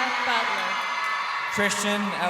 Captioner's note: crowd cheering